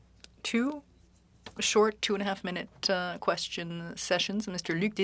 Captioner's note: speaking French